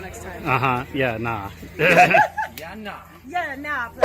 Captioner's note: laughs